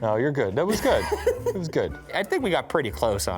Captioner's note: laughing